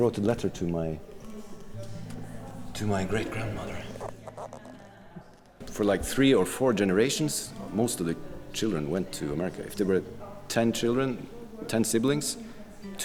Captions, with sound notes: - Yeah, he wrote a letter to my great-grandmother. (paper squeaking) For like three or four generations, most of the children went to America. If there were 10 children, 10 siblings,